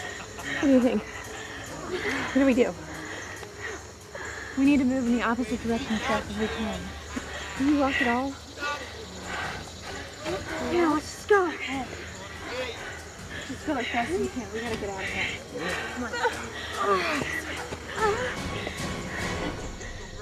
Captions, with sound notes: - What do you think? What do we do? - We need to move in the opposite direction as fast as we can. - Can you walk at all? - Yeah. Let's just go. - Let's go as fast we can. We're gonna get out of here. [groaning]